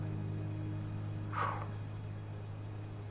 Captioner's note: exhales